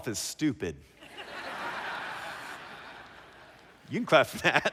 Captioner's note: laughter